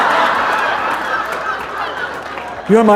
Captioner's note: laughter